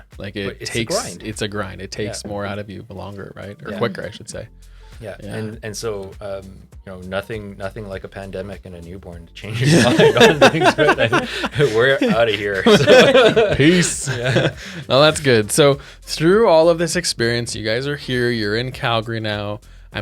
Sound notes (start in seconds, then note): 9.6 laughs